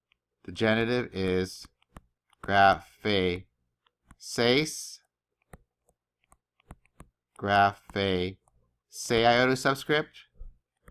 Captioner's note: speaking greek